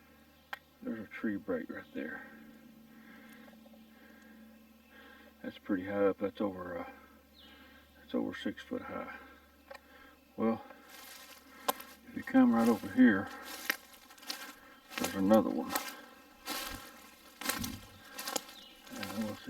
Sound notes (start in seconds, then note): 13.4 twigs crunching